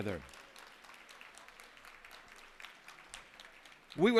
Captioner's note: applause